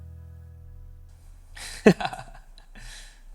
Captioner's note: laughs